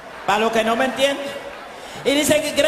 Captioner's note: speaking spanish